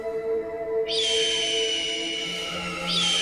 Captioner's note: Screech